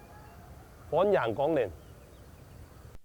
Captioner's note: in Hakka dialect